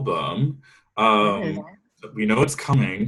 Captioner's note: static drowns out